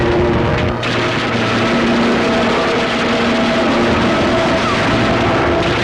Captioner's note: gun firing